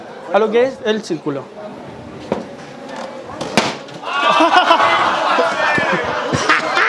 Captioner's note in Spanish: Público ríe